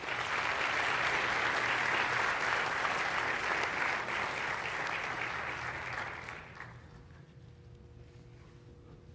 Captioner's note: applause